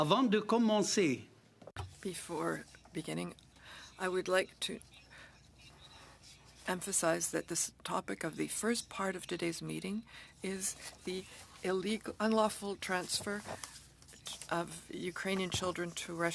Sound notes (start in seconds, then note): 4.3 speaking French